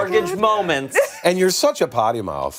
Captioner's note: laughter